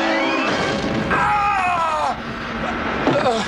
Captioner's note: screaming